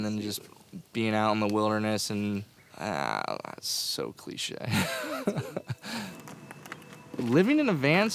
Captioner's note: laughter